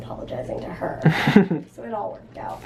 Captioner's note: laughs